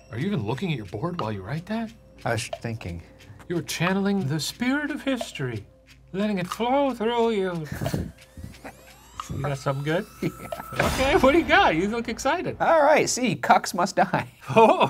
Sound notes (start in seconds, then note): 7.6 chuckling